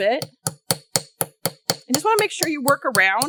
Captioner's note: light hammering